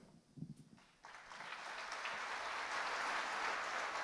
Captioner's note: applause